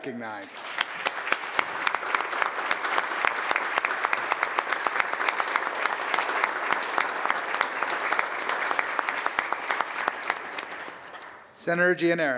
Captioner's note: applause